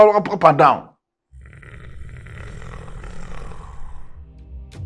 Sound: Mohuru growling

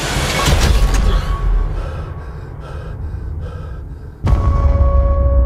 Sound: heavy breathing

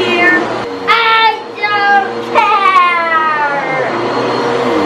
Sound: yells; vacuum running

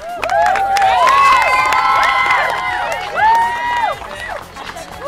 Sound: team clapping and cheering

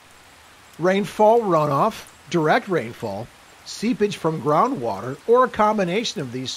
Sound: rain sounds

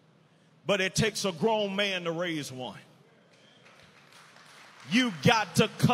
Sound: audience applauding

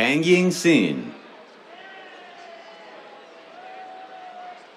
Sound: cheers

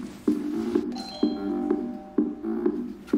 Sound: door bell

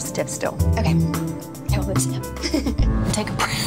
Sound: laughs

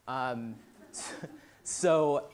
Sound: laughter

